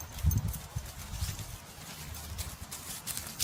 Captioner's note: clinking of dog tags